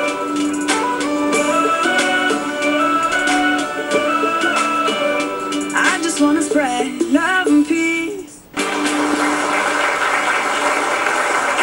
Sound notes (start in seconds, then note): 8.6 applause